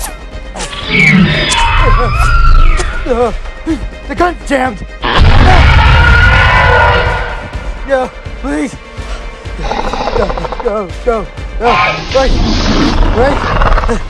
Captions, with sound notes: (Hermes screeching) The guns jammed! (Hermes roaring) No, please! No, no, no! Wait, wait!